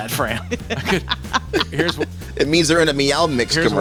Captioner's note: group laughs